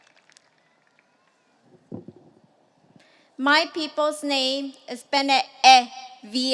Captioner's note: applause